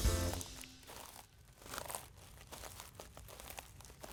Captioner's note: feet scrunching